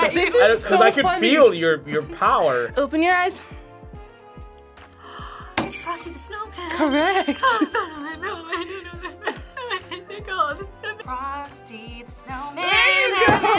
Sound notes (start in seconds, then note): 0.0 laughs; 5.0 gasps; 6.4 cries